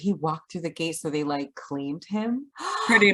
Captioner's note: gasps